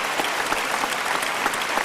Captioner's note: applause